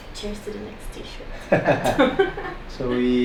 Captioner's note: laughs